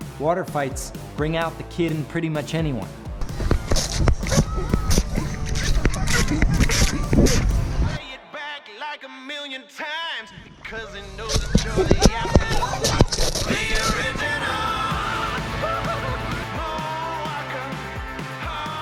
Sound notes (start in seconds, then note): 3.3 water guns squirting; 10.8 water guns squirting